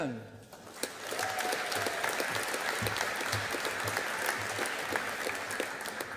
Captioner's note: audience applauding